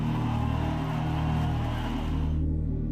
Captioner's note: cheering